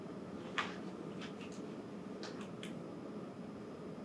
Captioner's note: air conditioner hums; paper shuffles